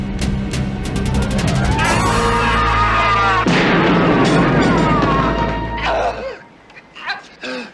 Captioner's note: man screams followed by a gunshot on TV